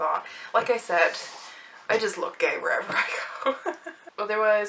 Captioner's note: laughs